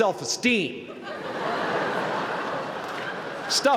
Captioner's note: laughter